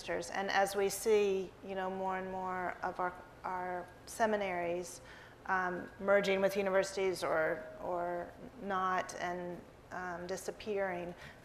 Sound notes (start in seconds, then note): none